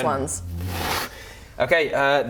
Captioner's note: whoosh